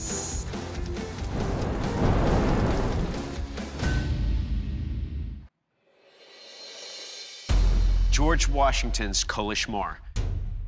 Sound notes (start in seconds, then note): 3.5 clanging